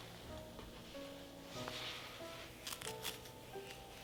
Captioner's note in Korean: none